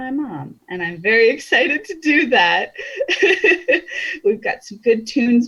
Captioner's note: laughs